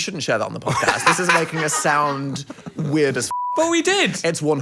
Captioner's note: beep